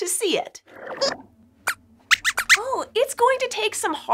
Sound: squeaks squeaks

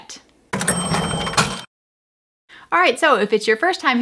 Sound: cash register ringing

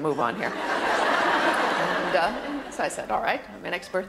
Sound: audience laughter

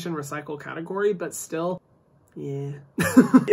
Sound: laughs

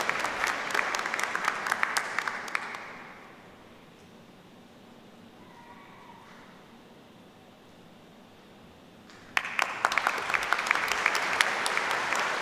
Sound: applause

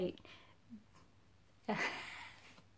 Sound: laughs

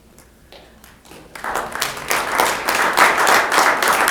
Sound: applause

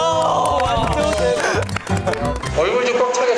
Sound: impressed - applause!

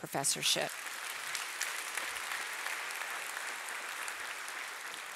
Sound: audience applauding

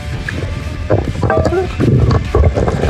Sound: bloop

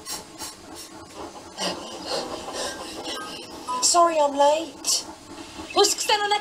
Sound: percy panting

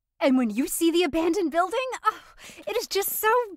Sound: happy sigh

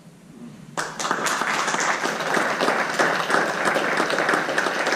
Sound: audience members applauding

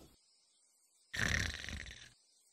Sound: snore

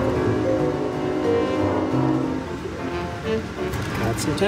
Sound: train horn blows

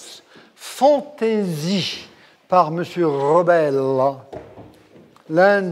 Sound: speaking in a foreign language

